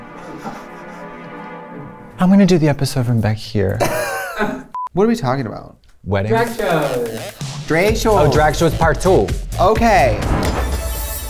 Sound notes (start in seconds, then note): 0.0 intense music; 3.8 laughs